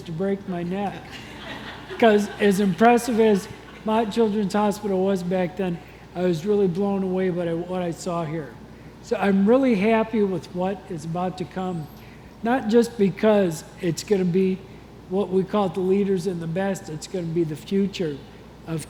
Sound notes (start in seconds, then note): 1.0 congregation laughs